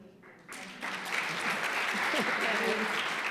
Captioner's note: applause